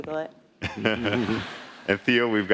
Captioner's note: laughing